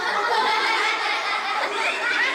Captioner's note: laughter